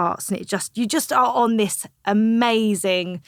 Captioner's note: none